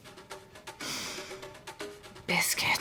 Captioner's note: sniffing